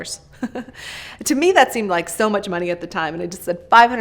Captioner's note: chuckles